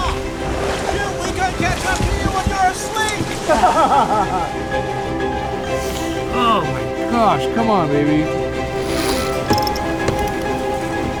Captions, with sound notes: You guys rock! We're gonna catch up to you when you're asleep. (laughing) (grunting) - Oh gosh. Come on baby.